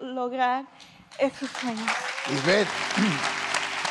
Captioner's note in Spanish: Aplausos